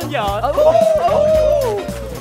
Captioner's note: howling